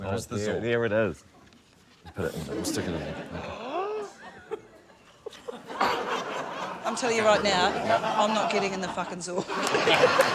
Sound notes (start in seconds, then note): 4.4 gasps; 9.4 laughter, cheering, applause